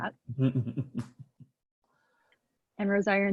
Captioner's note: laughing